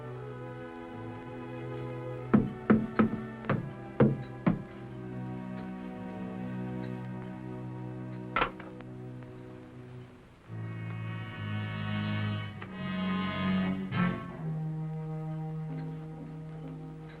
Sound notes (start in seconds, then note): 2.3 taps; 10.6 suspenseful music